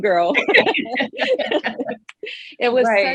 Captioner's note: all laughing